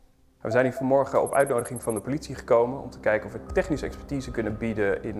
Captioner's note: speaking in foreign language